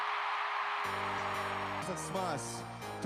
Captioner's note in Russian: ликование